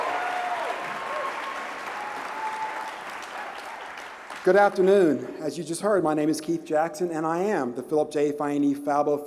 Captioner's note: applause